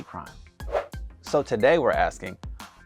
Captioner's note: whoosh sound